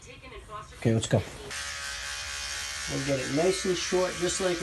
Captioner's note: razor buzzing